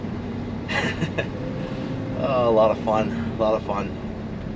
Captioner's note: laughs